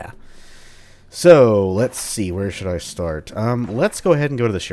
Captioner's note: journal opens/closes